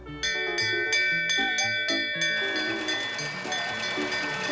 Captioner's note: bell ringing